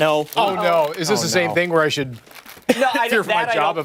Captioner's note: laughter